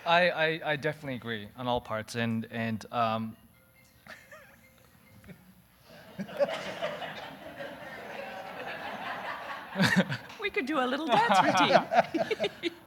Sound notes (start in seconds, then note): 2.6 audience laughing; 2.6 cellphone ringing